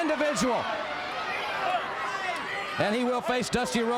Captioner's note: crowd chatter